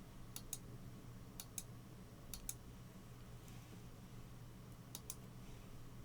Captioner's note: computer mouse clicking